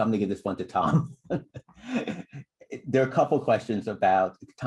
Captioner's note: laughter